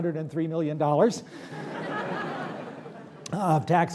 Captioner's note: laughter